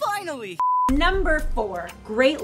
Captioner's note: beep